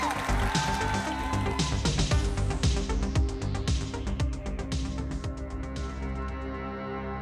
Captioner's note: crowd cheering; lively electronic music; soft somber music